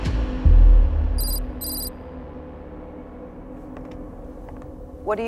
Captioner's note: letters clicking